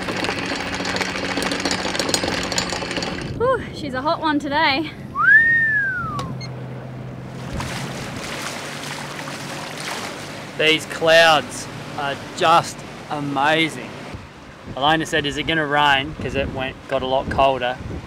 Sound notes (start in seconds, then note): 5.1 whistles